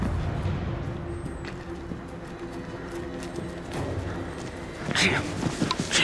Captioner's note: tense music; rapid footsteps